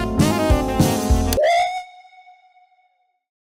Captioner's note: echoing scream